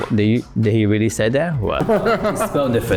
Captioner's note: laughs